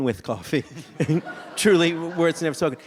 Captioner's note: audience laughs